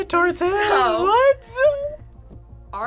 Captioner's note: laughs